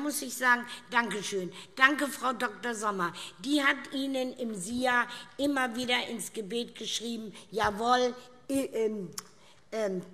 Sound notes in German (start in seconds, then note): none